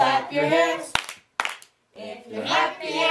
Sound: clapping

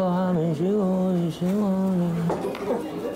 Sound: fumbling

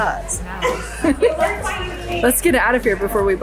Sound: laughs

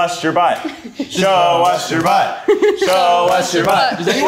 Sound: all Chanting

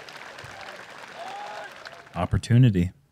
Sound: applause

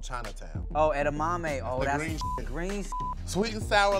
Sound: beep

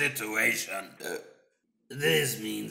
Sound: burp

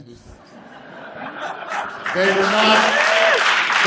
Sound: applause

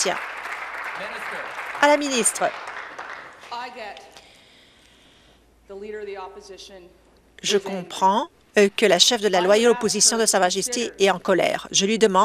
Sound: applause

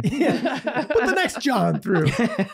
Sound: laughing

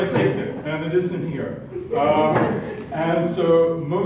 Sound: laugh

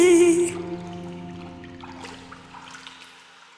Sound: water dripping

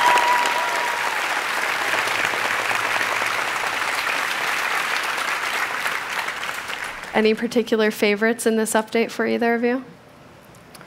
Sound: applause

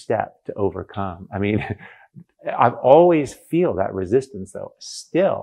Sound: laughs

